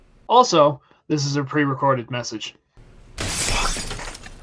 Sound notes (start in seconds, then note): 3.2 window being broken